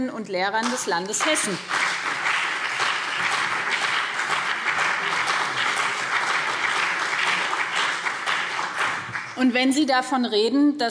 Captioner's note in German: Beifall BÜNDNIS 90/DIE GRÜNEN und CDU